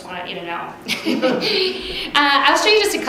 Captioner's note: laughing